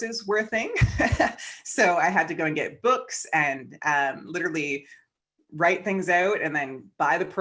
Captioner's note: chuckles